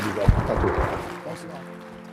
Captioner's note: audience applauding